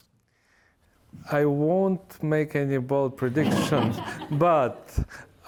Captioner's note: laughter